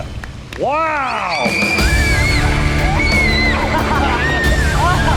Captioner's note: all cheering; laughing and exclaiming